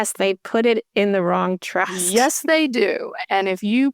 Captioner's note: chuckles